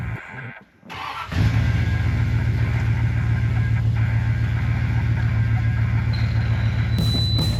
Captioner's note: starter sputtering; engine rumbling